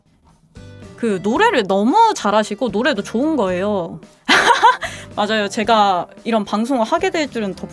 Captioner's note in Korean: 웃음